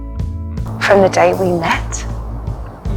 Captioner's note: voiceover